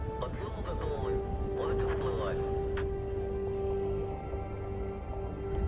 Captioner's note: man speaking in foreign language